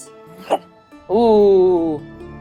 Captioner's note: imitating air whooshing